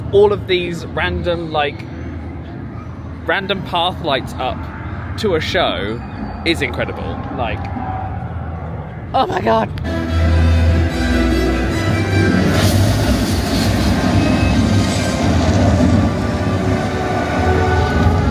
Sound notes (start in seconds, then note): 9.8 dramatic music; 12.4 fire roaring